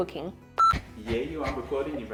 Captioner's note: camera beeps